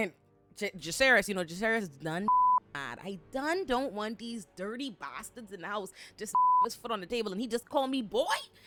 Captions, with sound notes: And Jaseres, you know, Jaseres is none (beep) I done don't want these dirty bastards and I was just (beep) his foot on the table and he just call me boy.